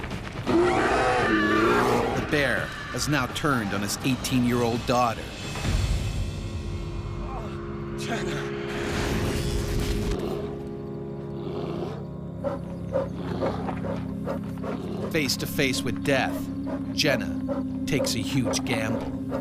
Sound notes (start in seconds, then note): 0.4 screaming; 15.4 voiceover